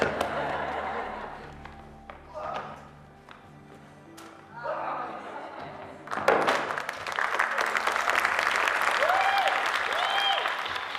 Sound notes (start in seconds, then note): 0.0 audience laughing; 6.2 audience applauding